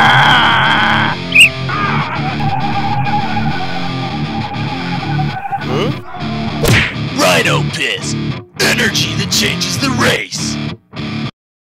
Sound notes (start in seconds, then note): 1.3 whistle; 1.6 roaring; 6.6 kung-fu punch